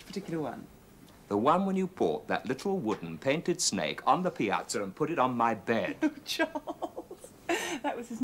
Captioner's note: laughs